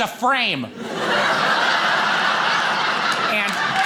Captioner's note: audience laughing